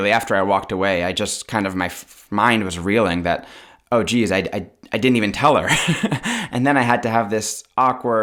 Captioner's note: laughter